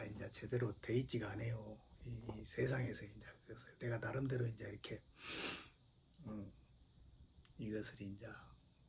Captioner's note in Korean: 콧방귀